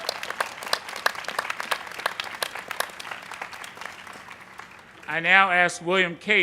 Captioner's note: applause